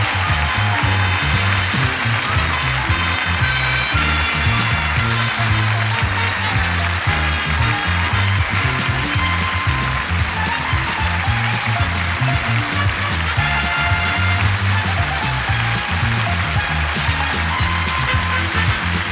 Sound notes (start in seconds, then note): 0.0 audience cheers; 4.0 audience cheers; 7.2 upbeat music; 11.4 upbeat music; 16.4 upbeat music